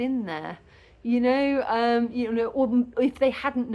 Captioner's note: none